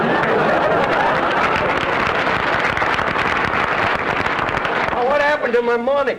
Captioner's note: audience laughter; applause